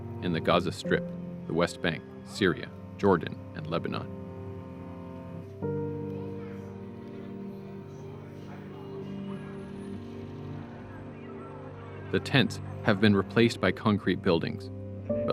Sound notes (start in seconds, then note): 6.0 children talking in background